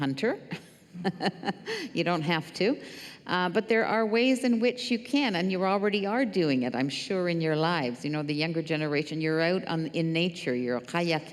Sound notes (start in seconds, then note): 0.9 laughter